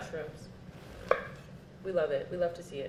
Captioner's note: cutting mushrooms